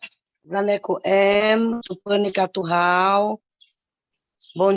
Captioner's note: speaking indigenous language